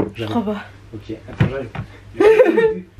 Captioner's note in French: rires